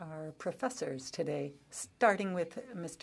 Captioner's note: speaking French